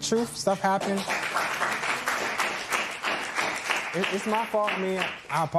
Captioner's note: applause